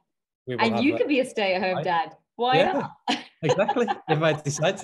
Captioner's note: laughing